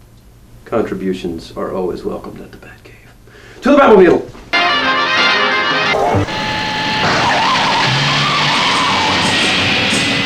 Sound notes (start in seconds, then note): 6.0 tire squealing; 6.2 engine revving